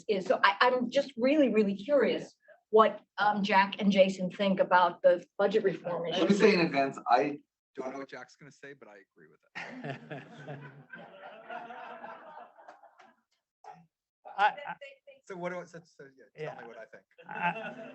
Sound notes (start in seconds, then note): 9.5 chuckles; 9.5 audience chuckling